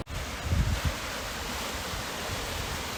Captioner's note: loud water splashes